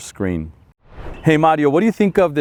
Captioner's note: air whooshing